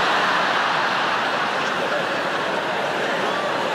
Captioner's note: audience laughing